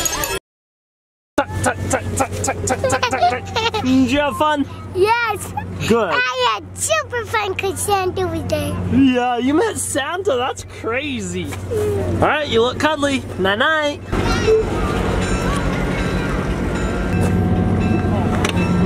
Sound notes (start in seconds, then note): 3.6 giggles